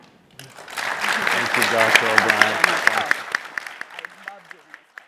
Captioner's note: applause